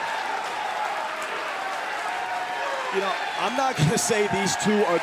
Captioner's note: crowd cheering